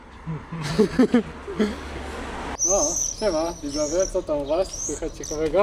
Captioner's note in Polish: śmiech